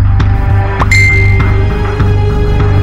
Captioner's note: Notification tone